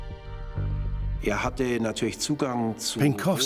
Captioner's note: speaking German